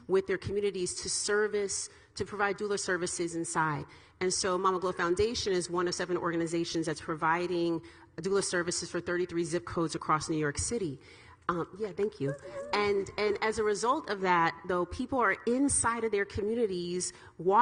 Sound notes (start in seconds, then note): 11.0 clapping